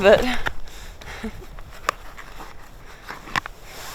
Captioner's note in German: kichert